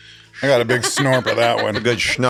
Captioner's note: laughs